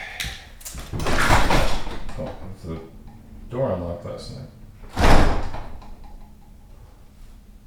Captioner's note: mumbling to self